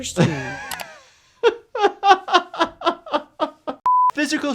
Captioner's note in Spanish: se ríe